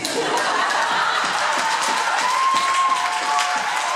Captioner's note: laughter, applause